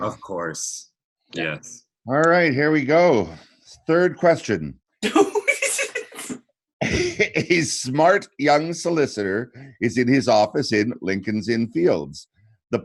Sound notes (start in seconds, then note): 5.0 laughs